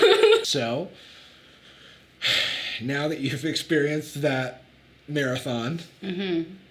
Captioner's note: Sadie laughing; sighs